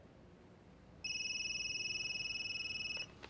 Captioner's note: cell phone ringing